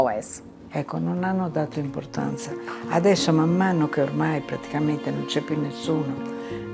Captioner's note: speaking in foreign language